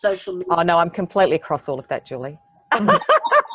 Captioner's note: laughs